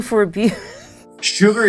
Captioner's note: laughs